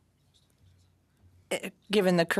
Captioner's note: speaking French